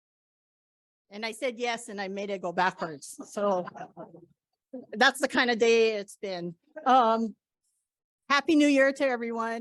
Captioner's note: laughter